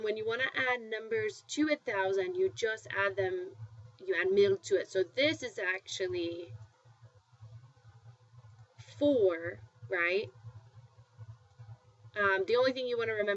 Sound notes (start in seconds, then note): 3.9 spanish